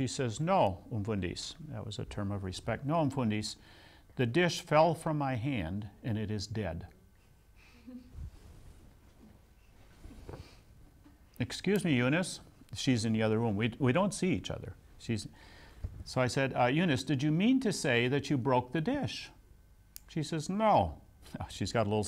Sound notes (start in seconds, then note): 2.9 afrikaans; 7.6 laughs